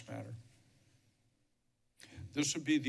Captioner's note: pause